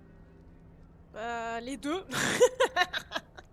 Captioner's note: laugh